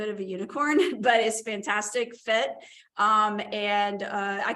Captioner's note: laughter